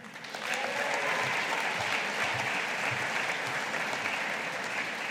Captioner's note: audience applauding